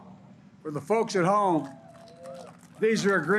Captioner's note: applause